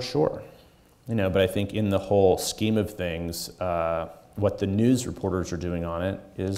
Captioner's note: none